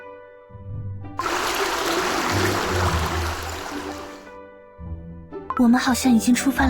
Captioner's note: gurgle gurgle gurgle